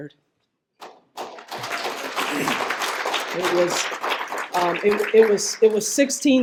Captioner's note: applause